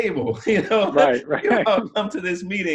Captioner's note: both laughs